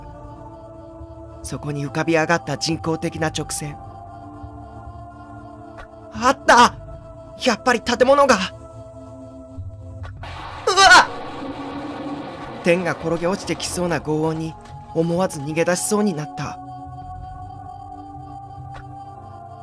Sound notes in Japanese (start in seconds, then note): 10.2 雷の音：ゴオォォ･･･; 10.2 稲光の音：ピガッ！; 12.6 心細いbgm